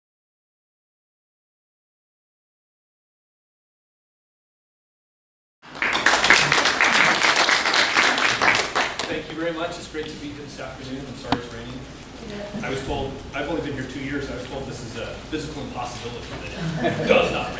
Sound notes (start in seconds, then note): 5.6 applause